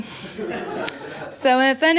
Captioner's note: laughter